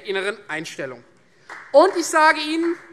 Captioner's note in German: Beifall Freie Demokraten